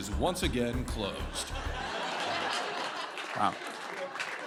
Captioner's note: laughter